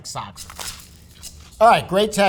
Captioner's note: sandwich rustling